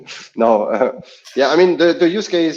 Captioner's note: laughs